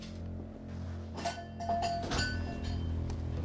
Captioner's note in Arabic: موسيقى متوترة; رنين جرس الباب، إغلاق الباب